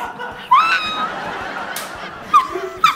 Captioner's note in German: Gelächter